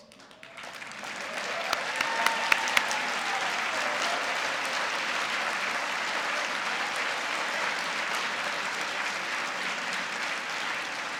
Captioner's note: applause